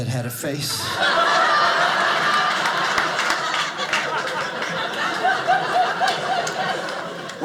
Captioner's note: audience laughing